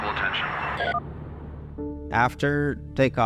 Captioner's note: intercom beeps